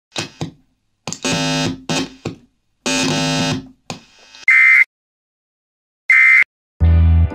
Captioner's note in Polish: Dźwięk sprzężenia